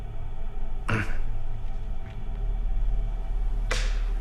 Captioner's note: Danny grunts